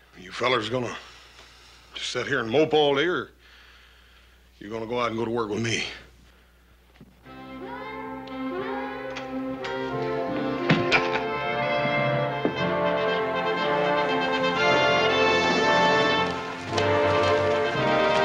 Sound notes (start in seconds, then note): 10.7 Ben chuckles